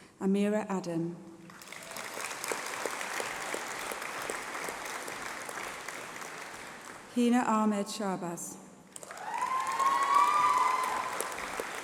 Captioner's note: applause